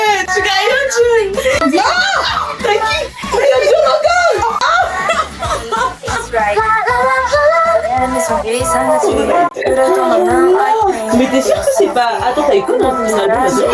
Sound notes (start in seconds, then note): 1.6 she screams